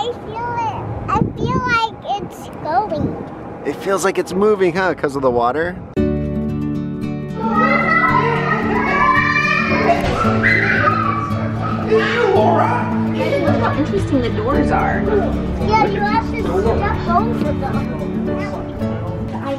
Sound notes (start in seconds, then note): 6.3 soft acoustic music; 7.3 children scream